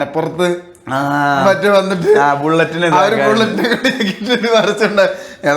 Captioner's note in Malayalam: പൊട്ടിച്ചിരി